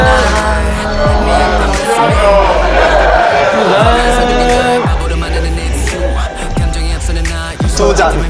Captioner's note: clinking through wifi